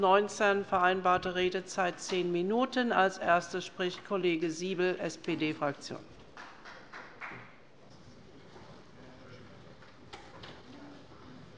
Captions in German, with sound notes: Die vereinbarte Redezeit beträgt zehn Minuten. - Als Erster spricht Kollege Siebel, SPD-Fraktion. (Beifall bei der SPD)